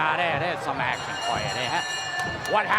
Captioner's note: bell ringing